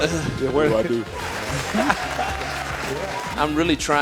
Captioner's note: applause